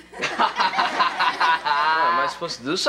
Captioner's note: class laughing